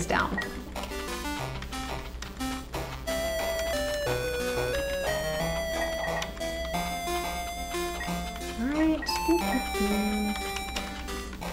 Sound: hums ditty to self

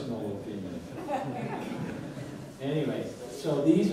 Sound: audience laughs

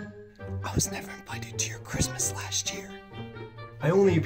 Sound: whispering

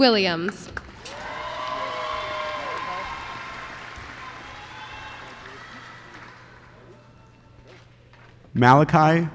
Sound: applause

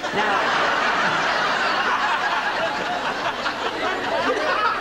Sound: laughter

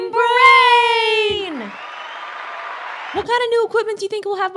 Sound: crowd cheering

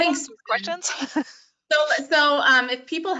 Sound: laughs

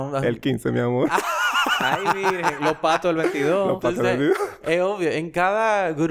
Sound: laughs

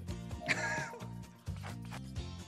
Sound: laugh

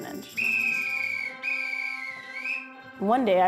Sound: whistle blows

